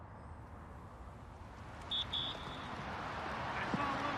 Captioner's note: whistle blows